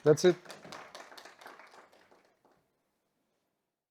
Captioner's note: audience applauding